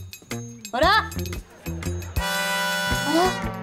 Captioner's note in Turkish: Gülme efekti